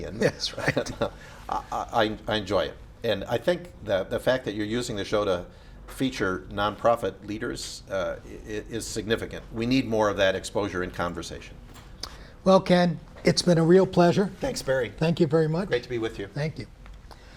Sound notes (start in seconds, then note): 0.6 laughs